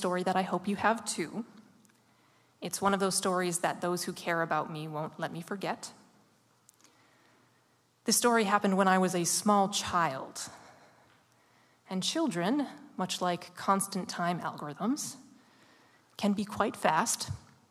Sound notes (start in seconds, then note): none